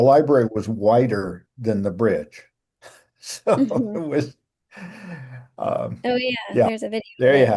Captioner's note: laughing